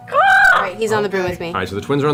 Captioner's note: eagle sound